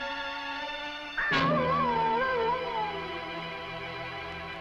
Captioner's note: animal howling